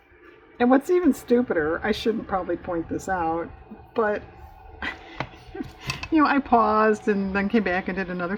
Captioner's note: laughs